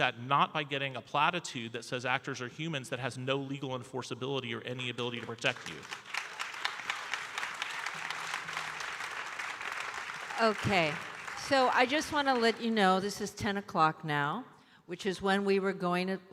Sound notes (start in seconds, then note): 5.1 audience applauding